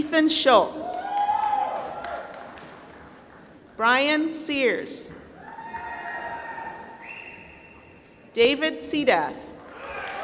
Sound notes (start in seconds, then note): 1.1 applause; 5.8 applause; 9.6 applause